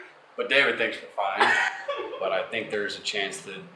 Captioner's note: laughing